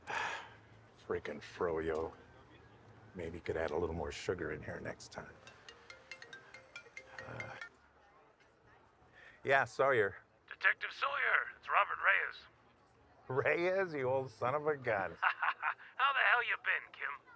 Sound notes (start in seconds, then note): 0.0 Sawyer sighs; 5.4 cellphone ringing; 15.1 laughing